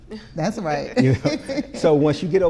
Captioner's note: laughing